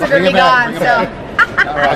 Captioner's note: laughs